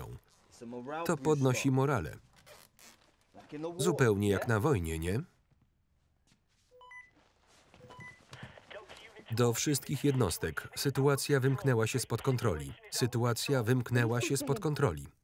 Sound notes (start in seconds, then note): 6.6 walkie talkie